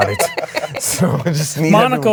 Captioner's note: all laughing